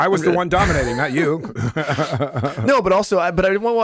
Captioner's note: laughs